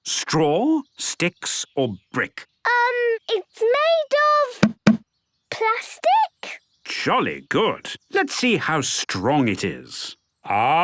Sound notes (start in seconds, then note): none